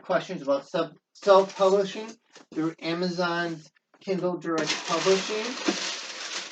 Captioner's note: rustling of paper